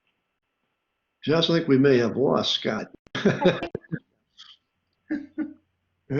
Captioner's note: both laugh